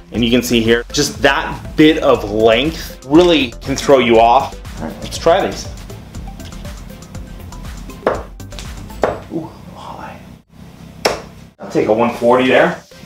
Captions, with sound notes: And you can see here, just that bit of length really can throw you off. All right, let's try these. (dart hitting board) (dart hitting board) Oh, high. (dart hitting board). I'll take a 140 there.